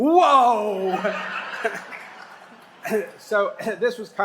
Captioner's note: laughter